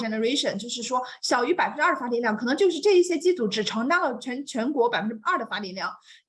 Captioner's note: speaks Mandarin; continues speaking in Mandarin